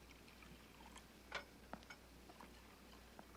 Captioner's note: drink pouring